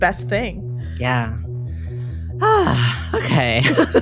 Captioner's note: sighs